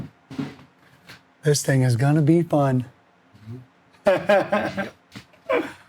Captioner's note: laughs